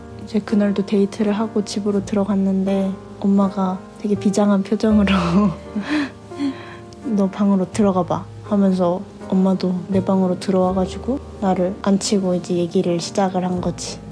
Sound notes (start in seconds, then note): 7.9 vocal mimicry